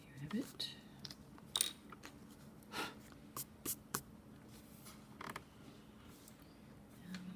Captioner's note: blowing sound followed by dusting the eraser dust